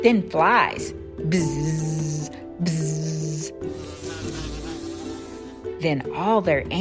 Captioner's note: bzzz, bzzz